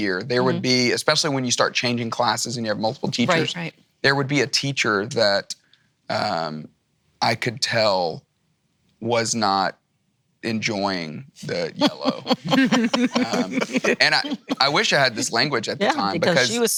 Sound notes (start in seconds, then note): 11.3 laughing